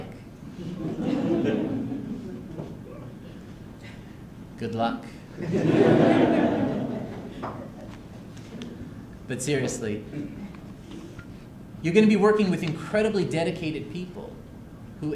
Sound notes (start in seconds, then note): 0.6 laughter; 5.4 laughter